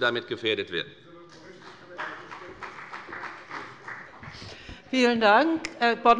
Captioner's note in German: Beifall bei der FDP - Zurufe von dem BÜNDNIS 90/DIE GRÜNEN